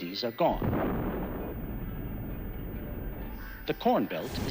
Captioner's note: bomb whistles, explodes